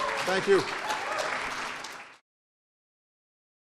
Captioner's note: applause